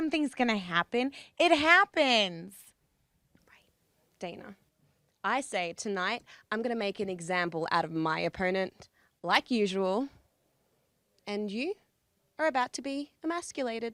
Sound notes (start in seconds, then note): none